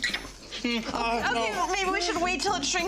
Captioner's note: man groaning